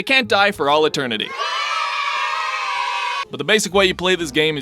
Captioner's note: children Cheering Happily